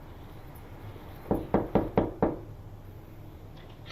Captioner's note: knocking